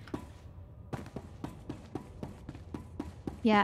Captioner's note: footsteps